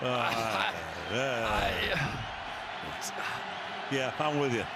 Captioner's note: laughs